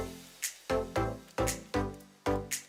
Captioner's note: none